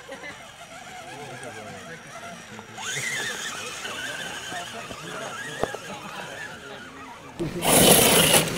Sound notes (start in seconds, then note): 3.9 motor whining